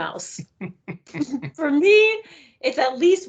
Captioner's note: chuckling